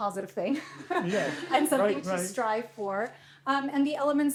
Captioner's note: laughter